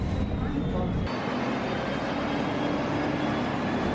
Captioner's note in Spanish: sonido ambiente del bus 'Busscar'